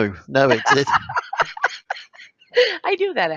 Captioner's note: laughs